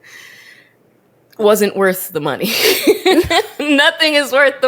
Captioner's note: laughs